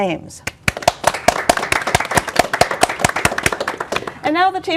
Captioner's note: applause